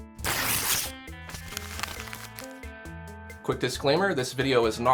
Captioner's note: pen writing; paper tearing